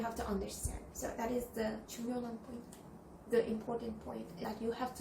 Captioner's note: Korean